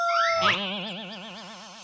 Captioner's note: boing